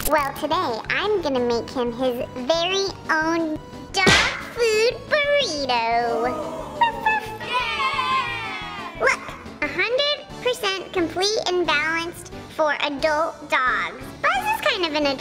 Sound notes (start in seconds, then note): 6.1 crowd oooos; 7.7 children cheering